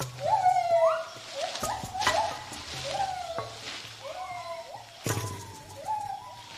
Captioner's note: monkeys howling